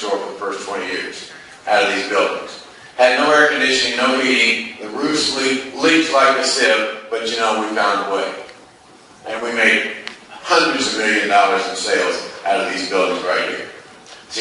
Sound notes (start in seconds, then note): none